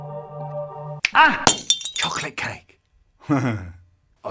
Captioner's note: crash